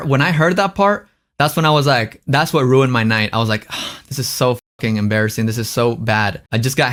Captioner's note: sighs